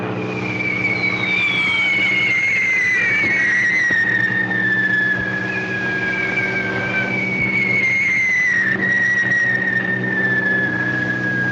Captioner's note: aircraft rumbling; bombs whistling